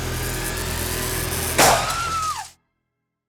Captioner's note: screaming